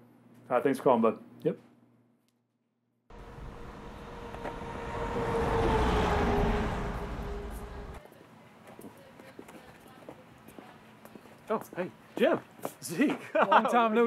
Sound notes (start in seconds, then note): 2.7 street din; 7.6 footsteps